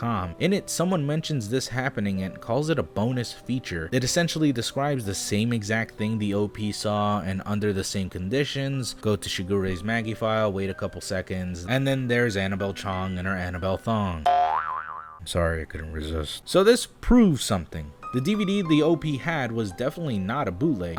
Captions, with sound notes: In it someone mentions this happening and calls it a bonus feature. It essentially describes the same exact thing the OP saw and under the same conditions. Go to Sugar Ray's Maggie file, wait a couple seconds and then there's Annabel Chong in her Annabel thong. [boing sound effect] Sorry, I couldn't resist. So this proves something. The DVD the OP had was definitely not a bootleg,